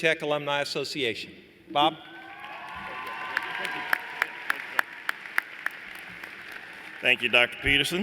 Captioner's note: applause